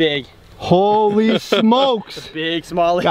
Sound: laughs

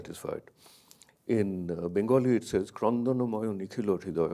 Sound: speaks in a foreign language

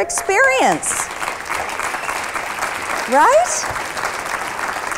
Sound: applause

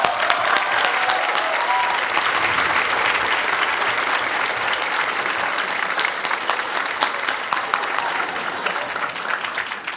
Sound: applause

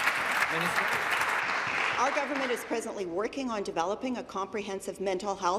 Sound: applause

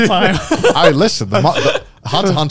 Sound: laughing

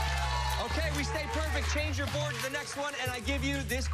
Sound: cheers and applause

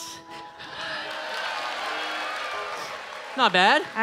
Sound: audience cheering

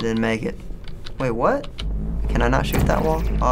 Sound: surprised

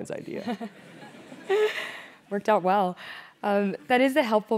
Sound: laugh

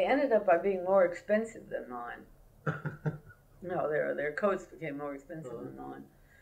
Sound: laughter

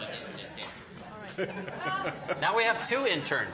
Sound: laughing; audience laughing; laughing

